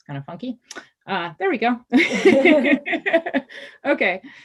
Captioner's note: laughs